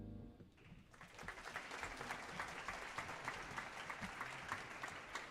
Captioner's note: audience applauding